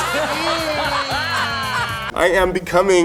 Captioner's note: Ru Paul and audience laughs